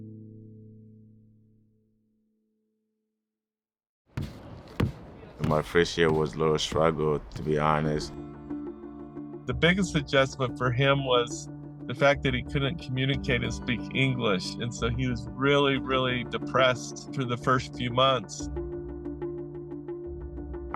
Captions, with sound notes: (dramatic music fades out) (ball dribbling) My first year was a little struggle, to be honest. - The biggest adjustment for him was the fact that he couldn't communicate and speak English. And so he was really, really depressed for the first few months. (suspenseful music)